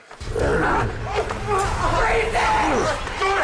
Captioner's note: Meathook Man growling